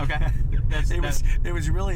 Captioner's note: laughs